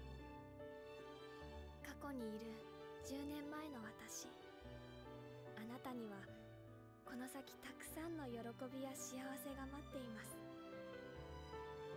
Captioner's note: Speaking Japanese